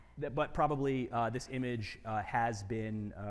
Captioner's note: none